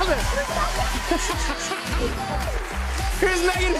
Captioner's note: laughs